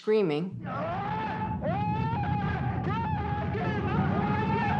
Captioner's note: men yelling